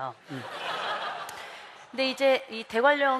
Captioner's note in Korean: 웃음